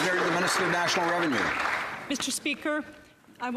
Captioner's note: some Applause